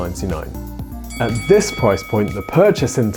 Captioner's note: bell dinging; cash register ringing